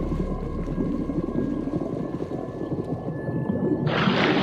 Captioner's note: water Rumbling and Bubbling